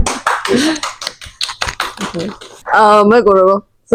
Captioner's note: audience laugh and applause